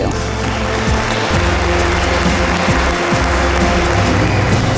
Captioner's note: audience applauds